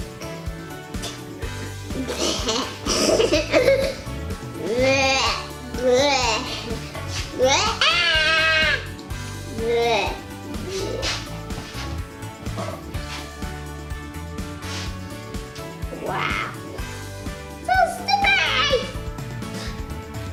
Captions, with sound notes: [giggles] Woahhahhh Ahhhh! Wow! It feels all sticky!